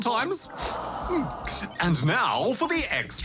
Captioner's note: sniffs